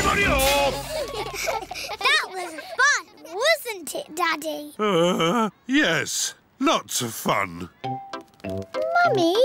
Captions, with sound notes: Everybody off! That was fun, wasn't it, Daddy? (GROANS) Yes. Lots of fun.